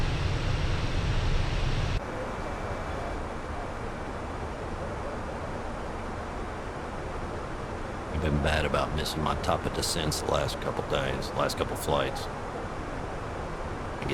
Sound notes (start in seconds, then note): 0.6 radio chatter